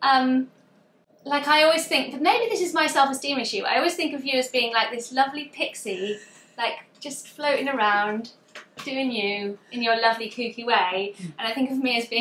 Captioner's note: laughs